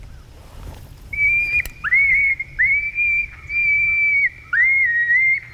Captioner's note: coyote call shrieking